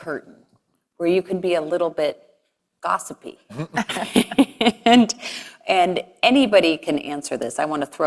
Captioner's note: laugh